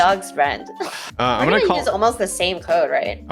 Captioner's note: sighs